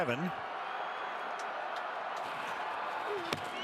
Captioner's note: crowd cheering